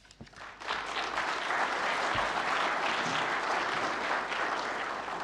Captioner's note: audience applauds